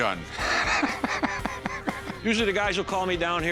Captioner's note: laughing